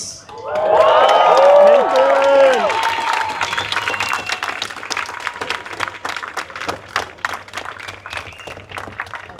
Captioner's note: applause